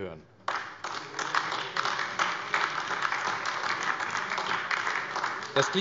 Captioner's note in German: Beifall AfD - Zurufe